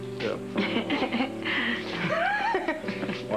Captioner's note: Rire